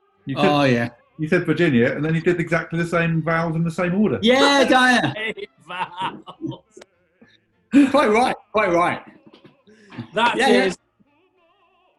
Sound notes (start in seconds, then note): 4.4 laughing; 7.6 laughter